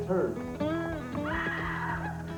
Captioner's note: woman screaming